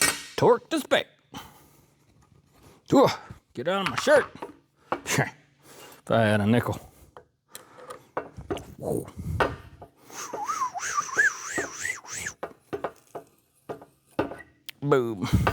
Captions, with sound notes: Torque this back. Get it out of my shirt. Try on a nickel. (Whistling) Boom.